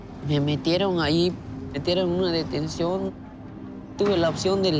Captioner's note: in Spanish